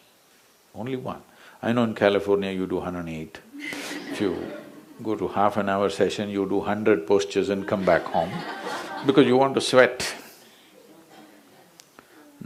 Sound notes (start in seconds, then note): 3.6 laughter; 3.6 笑聲